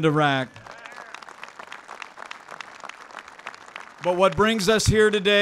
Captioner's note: applause